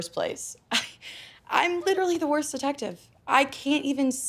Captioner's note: laughs